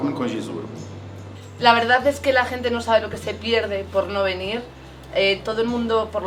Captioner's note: in Spanish